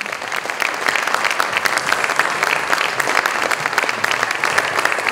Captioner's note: applause continues